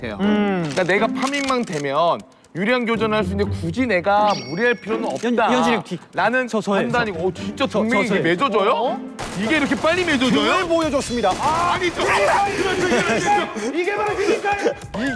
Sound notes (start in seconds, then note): 9.2 firing shots